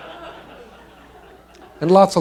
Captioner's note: laughter